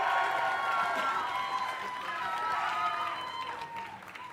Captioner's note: cheers and applause